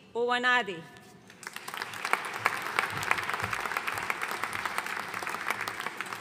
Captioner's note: audience applauding